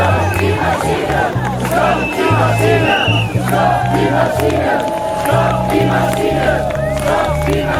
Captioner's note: people yelling "Stop the machines"